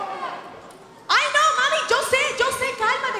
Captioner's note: speaking Spanish